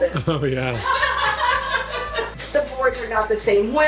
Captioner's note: laughs